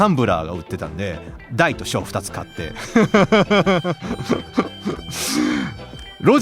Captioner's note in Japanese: 笑い